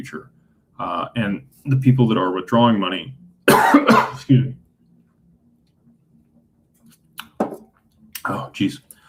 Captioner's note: cough